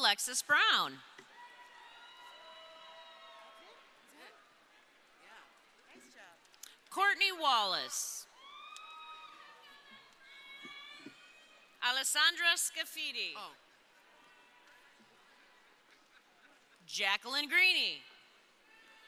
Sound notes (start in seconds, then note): 1.1 crowd cheering; 8.3 crowd cheering